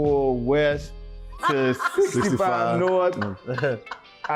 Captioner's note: laughing